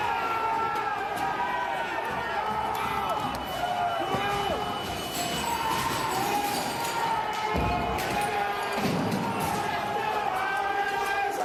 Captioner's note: yelling